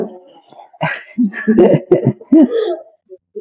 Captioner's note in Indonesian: tertawa